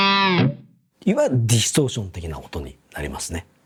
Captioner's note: distortion